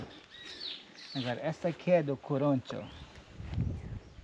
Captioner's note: speaking Portuguese